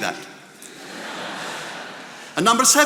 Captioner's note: attendees laughing